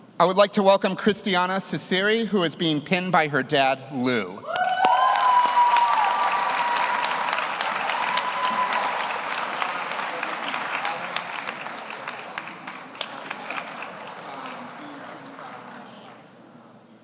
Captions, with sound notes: I would like to welcome Christiania Ciceri, who is being pinned by her dad, Lou. (audience cheers) (audience applauds)